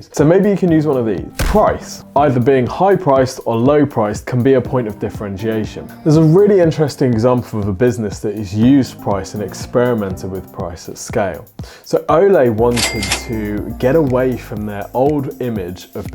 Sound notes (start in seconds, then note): 12.7 cash register ringing